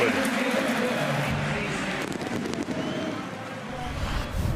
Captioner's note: pa announcement